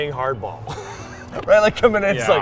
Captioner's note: laughs